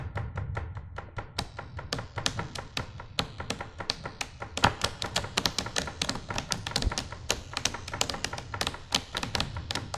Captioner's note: knocking